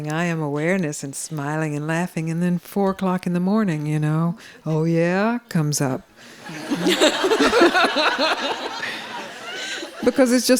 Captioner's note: laughter